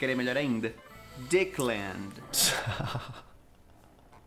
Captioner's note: laughs